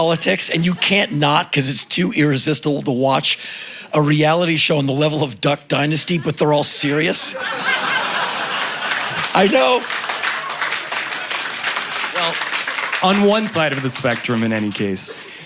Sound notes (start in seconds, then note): 7.5 laughter and applause